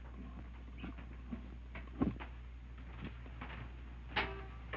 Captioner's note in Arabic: خطوات تقترب